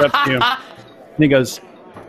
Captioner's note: laughing